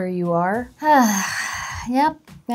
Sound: sighing

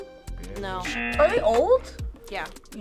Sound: audio buzzes

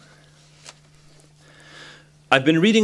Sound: pause

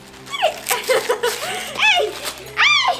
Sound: girl laughing

